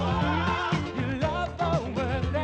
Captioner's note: cheering